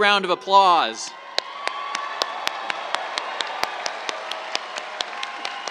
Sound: cheers, applause

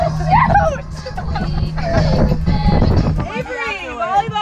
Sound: players laugh

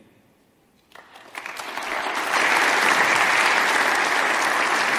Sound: audience applauding

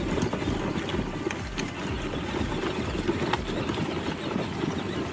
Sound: toy engine whirring

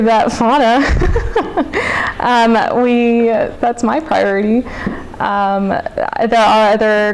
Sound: laughs

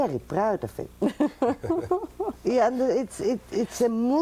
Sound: interviewer laughs

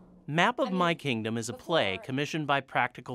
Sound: voiceover

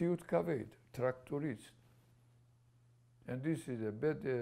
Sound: non-english

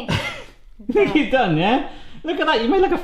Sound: laughing

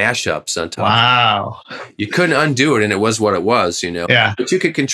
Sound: laughter

